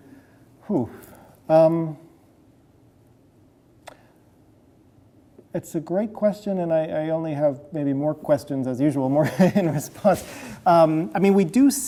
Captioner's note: chuckles